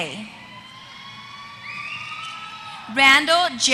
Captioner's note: applause